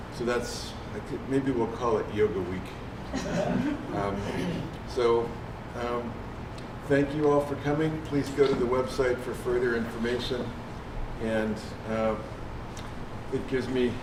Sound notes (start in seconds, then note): 3.0 chuckling